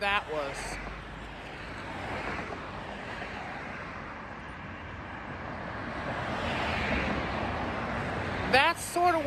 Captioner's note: Traffic sounds on State Boulevard